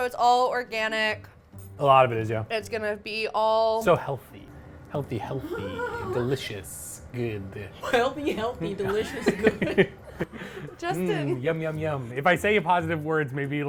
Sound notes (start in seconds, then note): 8.8 laugh